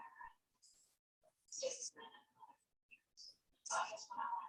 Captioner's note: faintly speaking